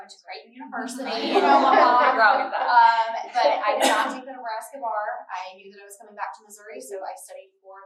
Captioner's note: laughter